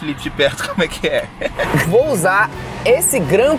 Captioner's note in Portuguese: risadas